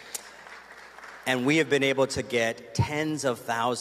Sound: applause

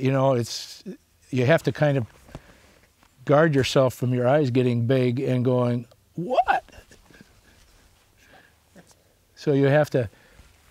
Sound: laughs

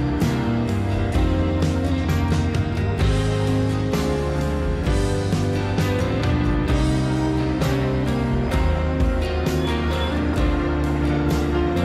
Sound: music & Helicopter thunder sound

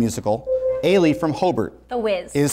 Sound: buzzer sounds

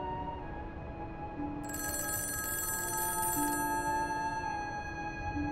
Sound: phone ringing

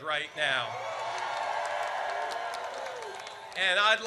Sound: audience cheers

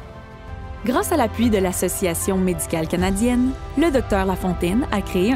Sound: speaking french

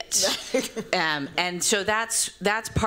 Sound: laughter

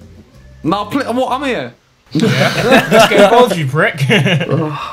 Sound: mumbles

